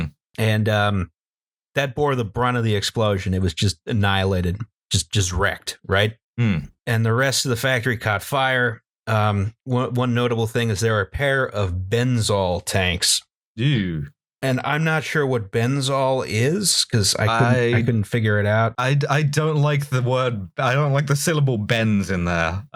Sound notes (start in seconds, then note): 13.5 nervous noise